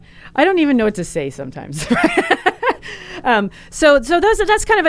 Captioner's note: laughs